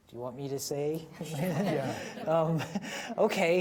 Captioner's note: audience laughing